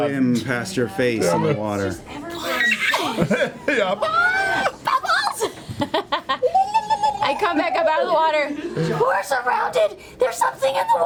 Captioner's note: laughs